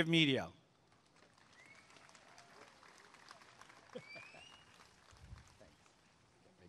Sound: applause and cheering

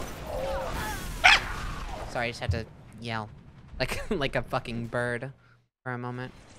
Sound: yelps

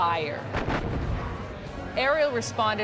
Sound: artillery fire

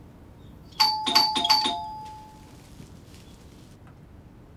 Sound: door bell rings hastily

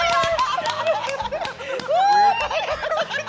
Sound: cheering

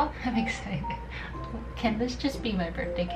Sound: chuckles

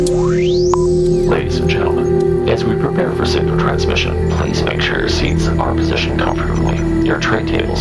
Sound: radio voice 1

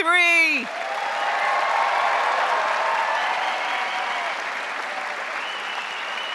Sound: crowd applauding; crowd cheering

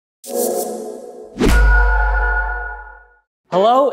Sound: logo whooshing and pinging

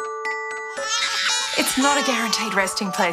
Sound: baby crying

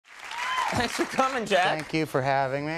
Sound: crowd cheering

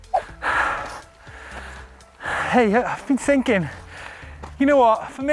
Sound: deep breathing

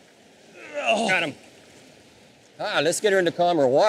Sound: grunts

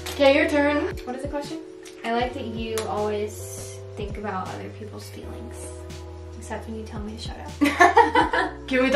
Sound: both laugh

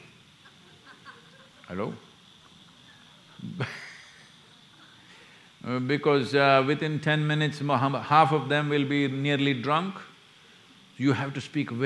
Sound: laughs

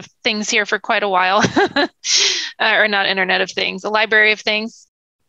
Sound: laughs

